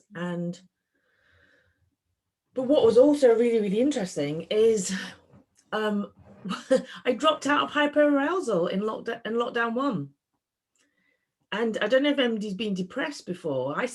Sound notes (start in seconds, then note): 6.7 chuckles